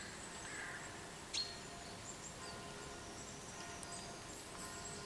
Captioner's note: bell tolling